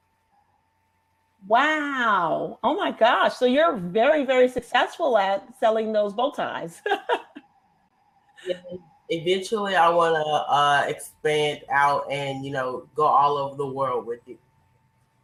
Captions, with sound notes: - Wow. Oh my gosh, so you're very, very successful at selling those bow ties. (laughs) - Yes. Eventually, I want to expand out and go all over the world with it.